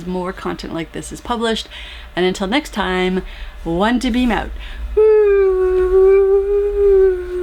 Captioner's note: whoooo